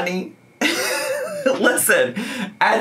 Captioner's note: laughs